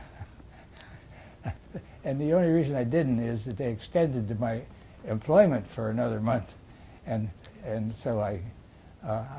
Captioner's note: laughs